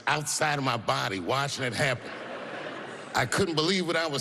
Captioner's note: laughter